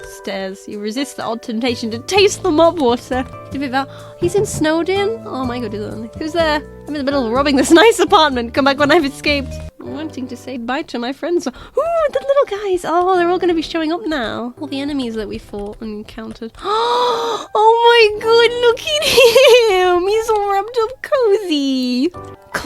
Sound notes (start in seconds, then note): 3.8 gasps; 8.4 laughing; 16.5 gasps